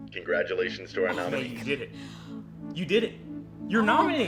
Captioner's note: Mae gasps